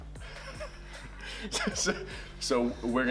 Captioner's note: laughing